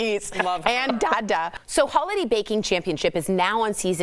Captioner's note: laughter